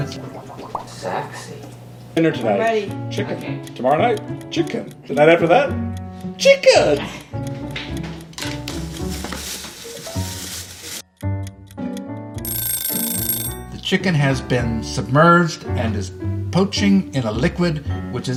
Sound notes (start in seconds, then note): 0.0 pot bubbling; 7.9 footsteps lightly running; 11.1 clock ticking; 12.4 timer rings